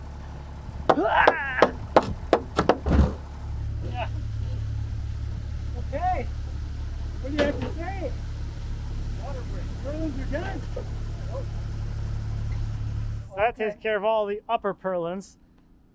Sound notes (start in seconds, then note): 1.1 builder grunts